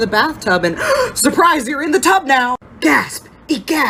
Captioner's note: gasp